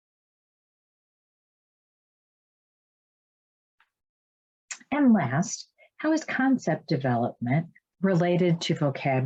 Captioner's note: silence